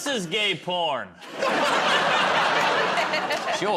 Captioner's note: laughter